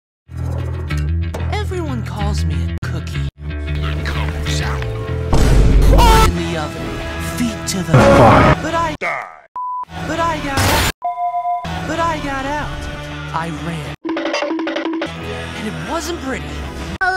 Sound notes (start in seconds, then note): 5.8 vine boom, Etika yell; 7.9 blooper noise; 10.5 car crash, distorted blooper noise; 14.0 cartoon running sfx